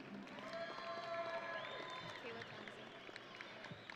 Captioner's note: audience cheering